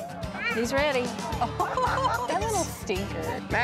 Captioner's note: laughter